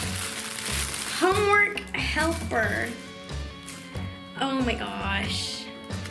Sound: tissue paper crinkling

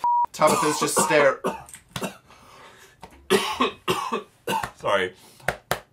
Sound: coughing; coughing

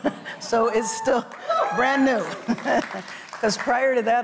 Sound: audience cheers

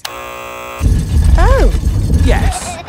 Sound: buzzer sounds

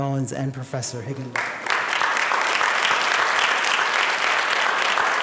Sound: applause

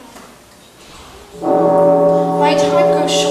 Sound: Big Ben tolls

